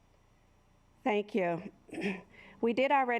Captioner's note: clears throat